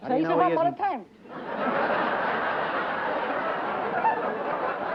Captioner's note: laughter